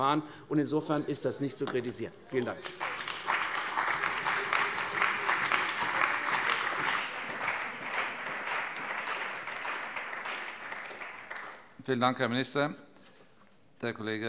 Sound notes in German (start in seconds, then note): 2.4 Beifall bei der CDU und dem BÜNDNIS 90/DIE GRÜNEN